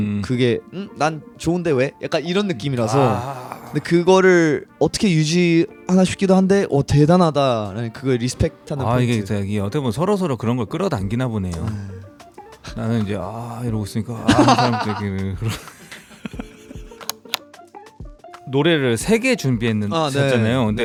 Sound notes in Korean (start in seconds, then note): 15.9 웃음